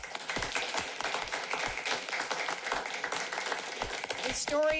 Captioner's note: applauding